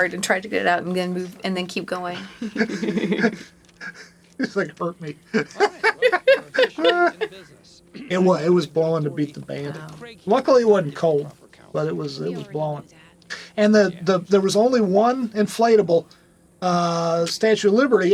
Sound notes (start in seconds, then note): 2.1 chuckling; 6.4 laughing